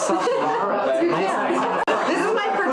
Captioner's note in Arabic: كلاهما يضحك